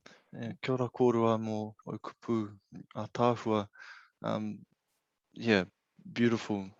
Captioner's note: speaking in foreign language